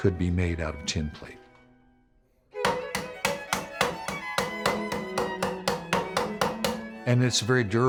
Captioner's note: hammering metal